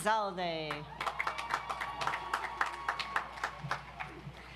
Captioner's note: audience applauds